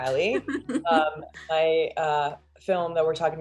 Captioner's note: laughs